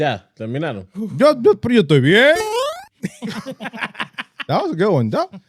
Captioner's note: speaking In Foreign Language; laughing